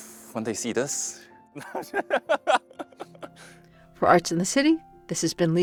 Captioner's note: laughs; sighs